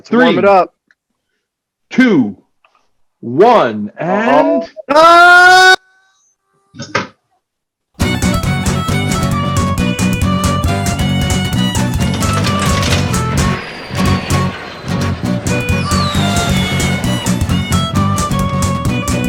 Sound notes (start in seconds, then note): 13.2 missile fires